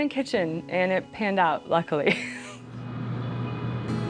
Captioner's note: chuckles